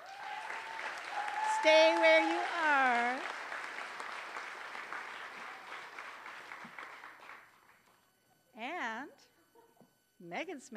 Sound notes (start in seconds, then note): 0.0 applause